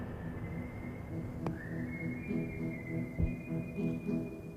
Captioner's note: light whistling